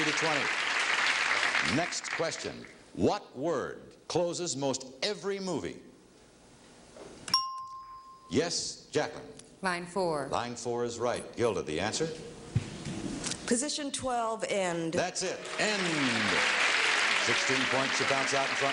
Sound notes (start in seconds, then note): 0.0 audience clapping; 7.3 ringing bell